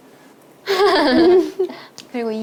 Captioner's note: laughing when feeling shy